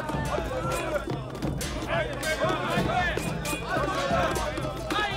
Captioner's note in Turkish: Davul sesleri; Tezahürat sesleri; Kılıç sesleri